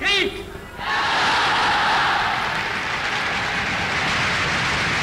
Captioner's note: people cheering